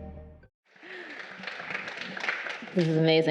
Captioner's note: crowd applauding